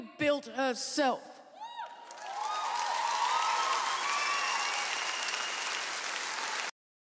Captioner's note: audience cheers